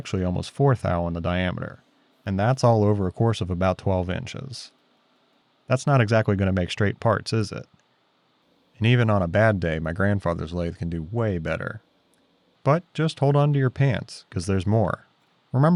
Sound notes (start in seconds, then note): none